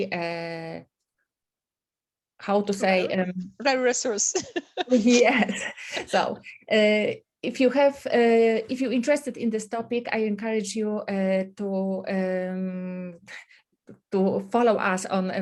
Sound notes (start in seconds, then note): 4.3 laughs